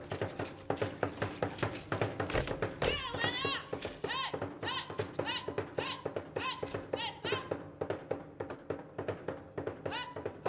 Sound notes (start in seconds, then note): 2.7 woman shouting and drum beating; 7.8 drum beating